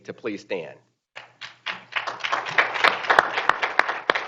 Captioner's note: group applauding